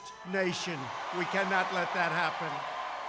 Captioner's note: applause